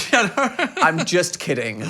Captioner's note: laughing